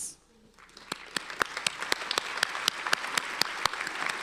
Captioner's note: applauding